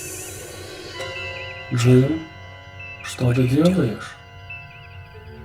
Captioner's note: voice sounds like kirk